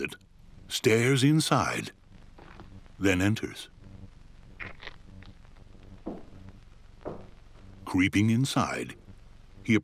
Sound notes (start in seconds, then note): 4.6 slow footsteps